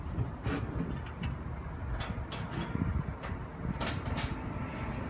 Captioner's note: metal clanging